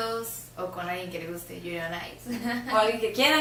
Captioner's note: giggles